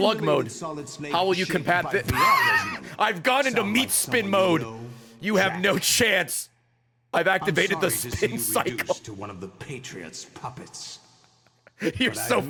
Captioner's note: laughs